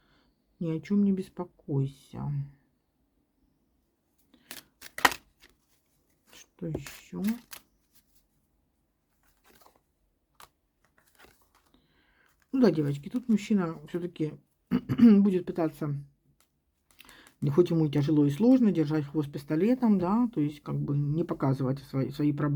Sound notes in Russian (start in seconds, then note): 14.7 откашливается; 14.7 кашель